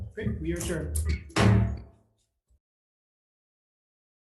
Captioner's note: gavel bangs